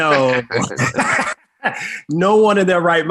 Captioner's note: both laugh